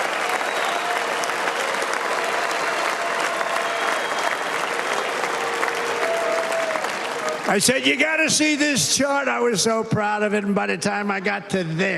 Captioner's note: cheers and applause